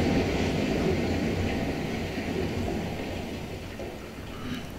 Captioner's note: rain